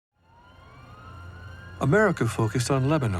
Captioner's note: siren wailing